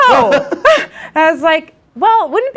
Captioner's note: instructor laughs